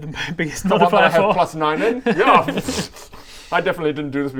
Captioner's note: pffffsh